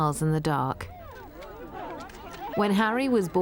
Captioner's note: photographers chattering